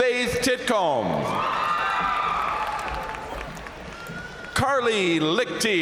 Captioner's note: crowd cheering; crowd applauding